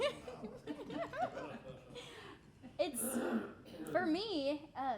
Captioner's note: all laughing